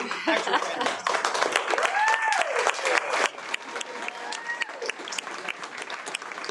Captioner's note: audience cheers and applauds